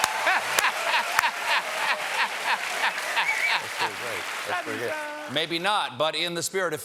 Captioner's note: cheers and applause